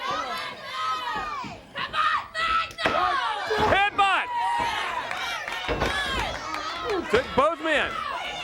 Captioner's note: crowd chatter